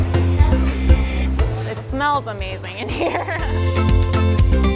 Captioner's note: chuckles